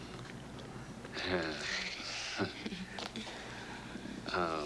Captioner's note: laughing